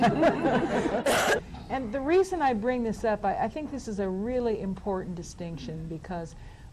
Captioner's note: laughter